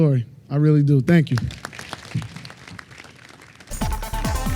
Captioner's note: applause